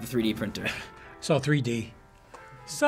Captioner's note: chuckles